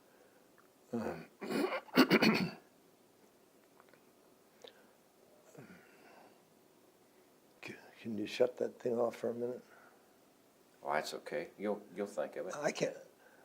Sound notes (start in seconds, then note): 4.7 clears throat